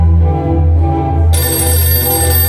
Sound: phone rings

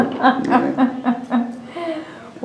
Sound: laughter

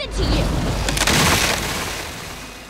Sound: cracking

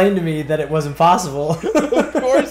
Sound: laugh

